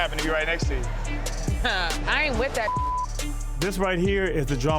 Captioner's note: beeps